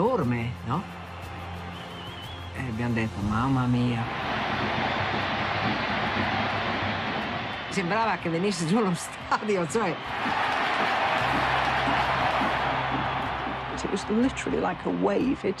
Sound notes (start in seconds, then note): 4.1 crowd cheers; 10.0 crowd cheers; 13.5 in English